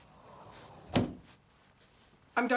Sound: cupboard closes

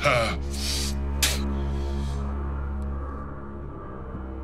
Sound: spitting

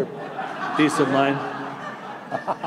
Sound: laughter

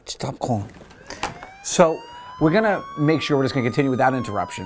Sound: siren wails

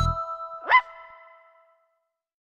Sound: bark

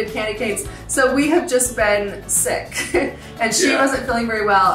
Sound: chuckles

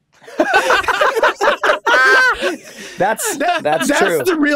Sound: all laughing

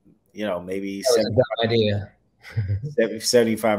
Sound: chuckles

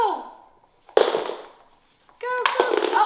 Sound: toy falls

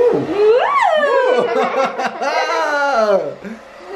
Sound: laughter

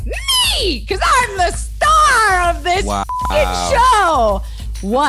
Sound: beep

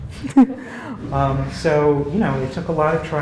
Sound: laugh

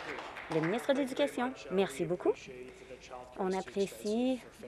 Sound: applause

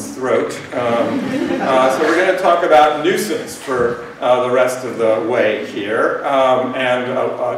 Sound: laughter

